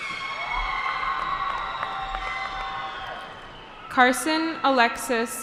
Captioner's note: cheering